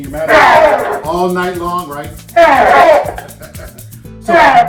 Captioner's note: laughs